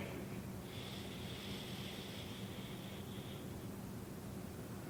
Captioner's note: breathing